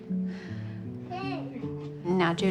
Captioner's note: laughs